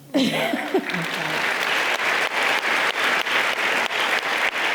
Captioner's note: audience applauding